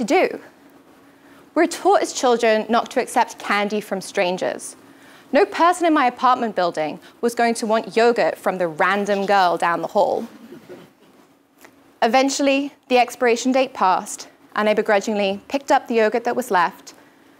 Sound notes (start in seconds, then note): 10.3 laugh